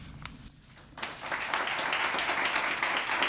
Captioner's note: applause